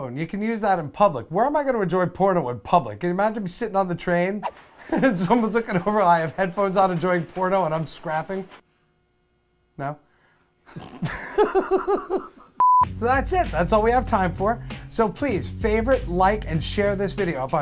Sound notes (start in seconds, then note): 10.7 they both laugh; 10.8 test card beeps